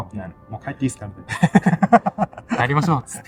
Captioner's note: laughs